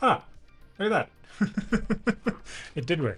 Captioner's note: laughs